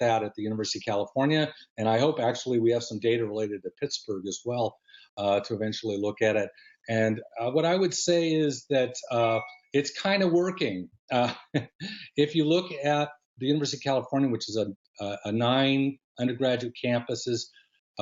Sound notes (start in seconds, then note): 7.3 laughter